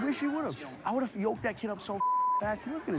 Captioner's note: beep